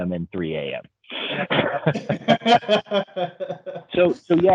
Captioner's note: both laughing